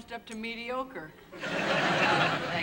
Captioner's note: laughter